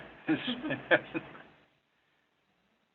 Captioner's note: laughs